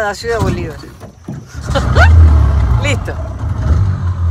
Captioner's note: laugh